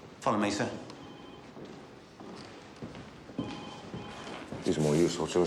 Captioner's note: phone ringing